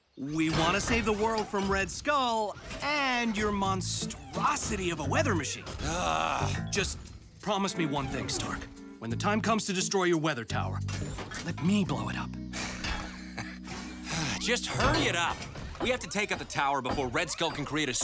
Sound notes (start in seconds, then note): 12.5 sighs